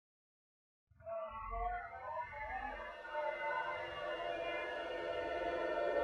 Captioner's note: celestial whirring and screeching